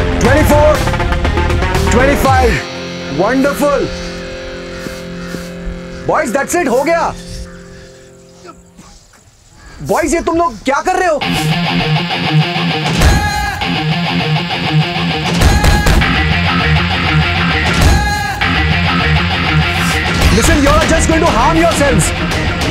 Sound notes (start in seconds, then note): 3.9 Rahat and Ranbir panting